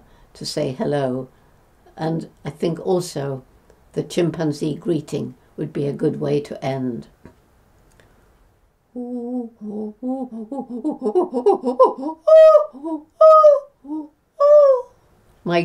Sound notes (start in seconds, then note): 10.4 chimpanzee vocalization